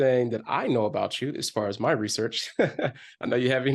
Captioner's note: chuckles